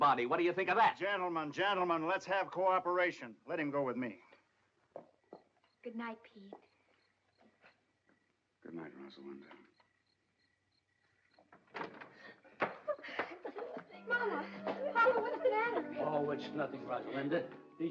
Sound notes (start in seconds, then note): 11.4 door opens; 12.7 Mrs. Amendola sobbing